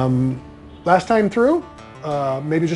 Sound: none

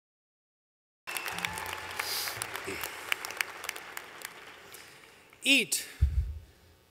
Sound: applause

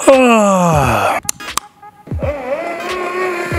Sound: yawns

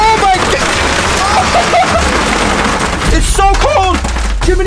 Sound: screams and laughs

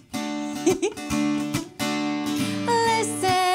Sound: chuckling

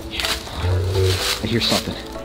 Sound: dinosaur vocalizes

